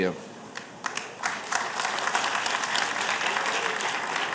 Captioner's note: applause